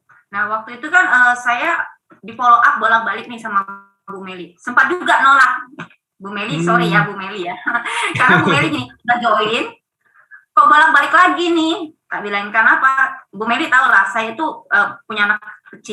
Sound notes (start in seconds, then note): 7.5 laughing